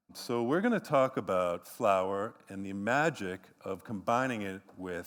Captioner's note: none